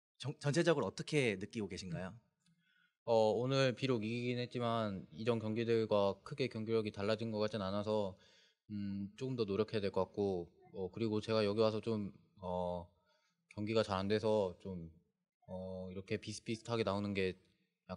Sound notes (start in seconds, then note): 3.7 speaking korean